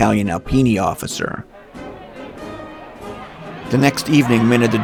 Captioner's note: crowds cheering